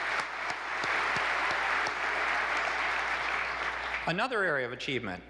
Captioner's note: applause